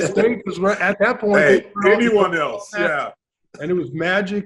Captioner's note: laughs